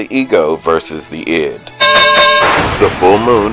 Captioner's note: ding, ding lightning strike